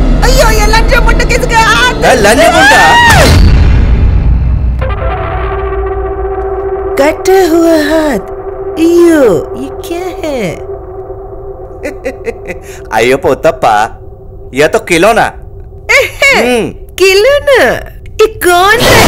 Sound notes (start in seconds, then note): 2.6 Amma screaming; 11.8 Appa giggling